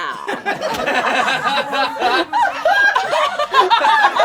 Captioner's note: all laugh